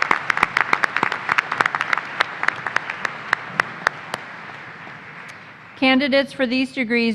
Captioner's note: applause